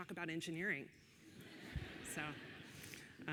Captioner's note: audience laughing